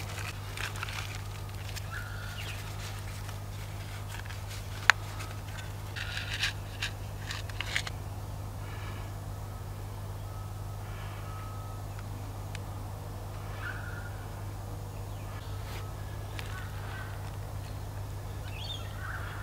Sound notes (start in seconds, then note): 0.0 container squeaking; 6.4 seeds clattering; 16.8 birds cawing